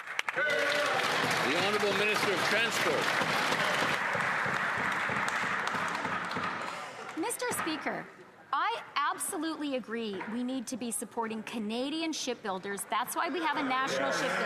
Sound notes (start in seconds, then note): 4.8 some Applause